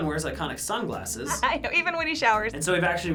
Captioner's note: laughs